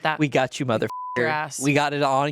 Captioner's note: beep